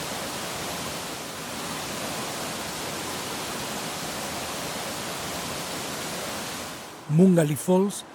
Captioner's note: waterfalls sound